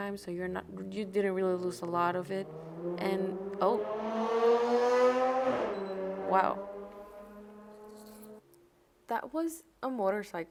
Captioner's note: LOUD motorcycle revving in the distance